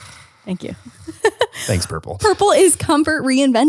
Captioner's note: laughs